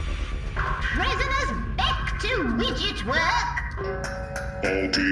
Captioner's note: sounds of tinkering